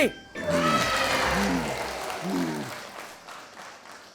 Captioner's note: crowd cheering and applauding